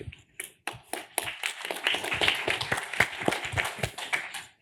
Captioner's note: applause